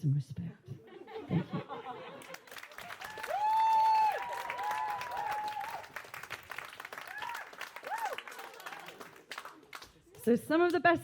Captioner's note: applause